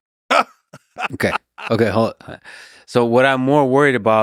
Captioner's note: Cenk laughs